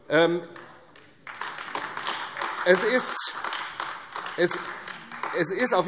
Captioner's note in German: Beifall AfD